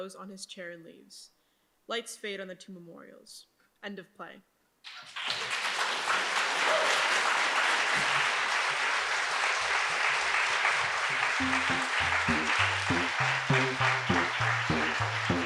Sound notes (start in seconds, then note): 5.0 audience applauds; 11.2 playful music